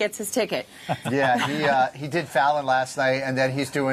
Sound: laughter

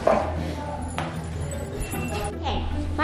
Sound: chains clacking

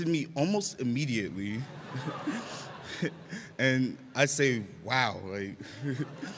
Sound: laughter

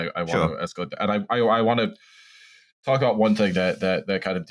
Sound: breathes deep

